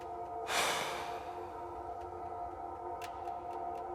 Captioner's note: Danny sighs